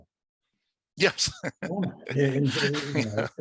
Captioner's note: laughs